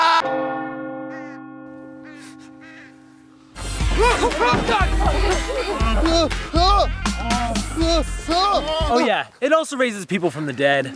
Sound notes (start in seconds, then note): 0.2 bell tolls gloomly; 2.1 sniffling; 5.2 whimpers